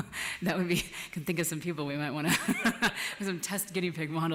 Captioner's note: laughs